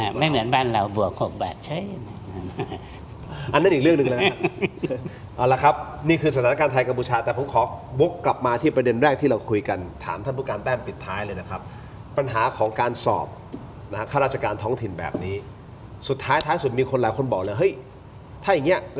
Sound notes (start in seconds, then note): 2.2 laughs